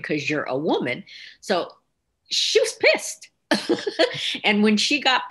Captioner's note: laughing